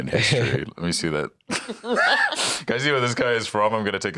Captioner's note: laughs